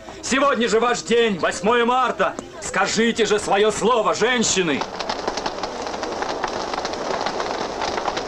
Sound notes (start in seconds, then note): 4.8 fire crackling